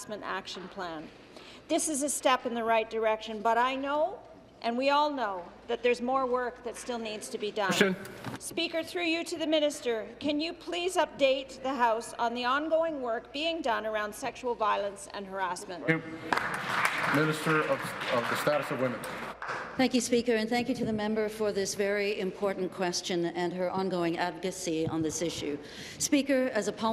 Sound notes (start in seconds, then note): 20.2 applause